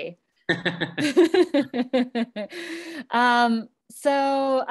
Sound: laughing

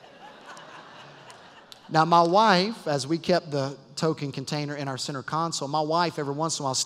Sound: laugter

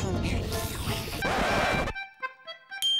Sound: record scratch

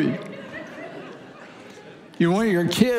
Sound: congregation laughing

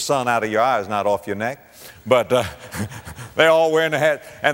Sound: audience laughter

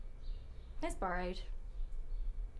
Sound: none

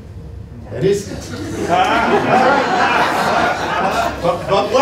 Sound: laughter

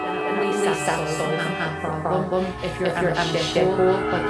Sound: voices echoing

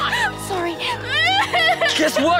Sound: crying

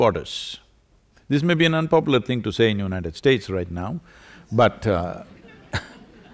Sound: few laugh

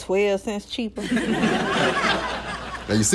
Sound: subtle laughs

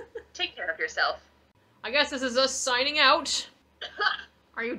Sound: coughts

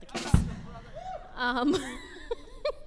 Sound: audience member hoots; laughs

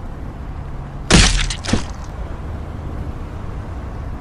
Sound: body impact on ground

